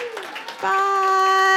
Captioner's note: applause